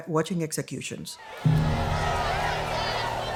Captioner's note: crowd jeering